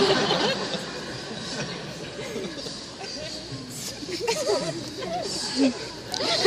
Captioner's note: laughter